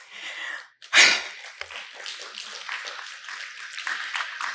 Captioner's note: applause